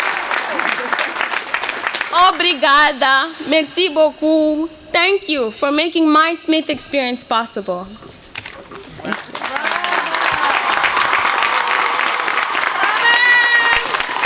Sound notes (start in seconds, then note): 2.1 speaking in foreign languages; 9.0 cheers and applause